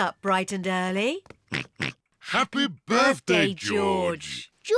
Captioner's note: oinks